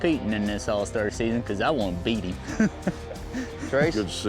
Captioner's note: laughs